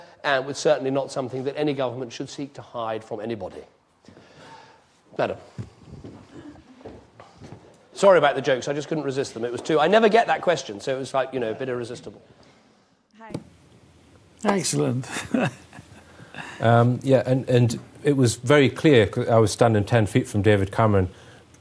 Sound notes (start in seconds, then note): 16.1 laughing